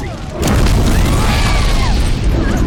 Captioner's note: woman screams